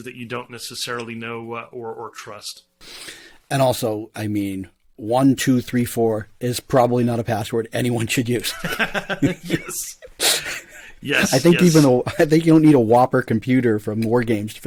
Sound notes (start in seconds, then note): 8.5 both laugh